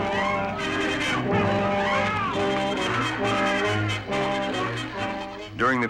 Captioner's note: dramatic music continues; men yelling continues